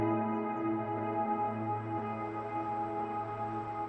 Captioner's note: birds chirping